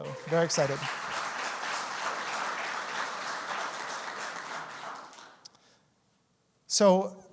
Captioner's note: audience applauds